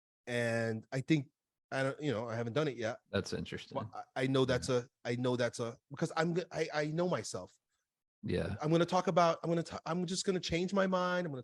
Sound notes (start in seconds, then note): none